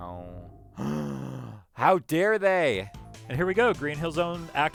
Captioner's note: gasp